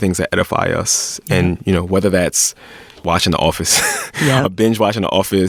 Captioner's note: laughs